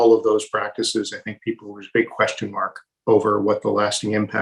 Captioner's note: murmurs